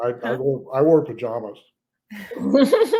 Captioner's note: all laugh